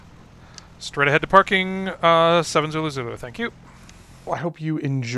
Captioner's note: me on radio